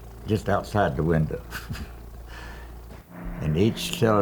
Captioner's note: chuckles